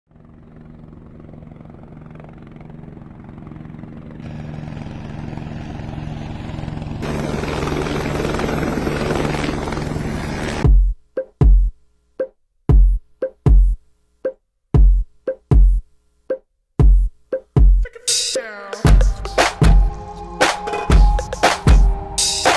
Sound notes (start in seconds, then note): 0.5 helicopter whirring; 10.4 upbeat music